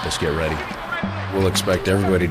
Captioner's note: people yell